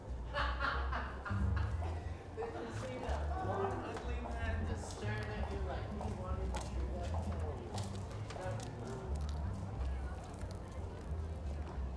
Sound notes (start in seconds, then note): 1.0 laughing; 6.0 indistinct chatter